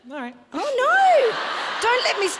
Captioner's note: audience chuckles; audience laughs